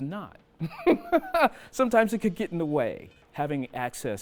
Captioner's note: chuckling